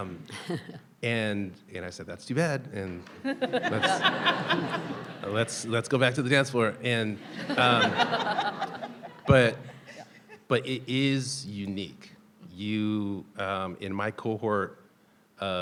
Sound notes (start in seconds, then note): 0.2 people laughing; 3.0 people laughing; 7.0 people laughing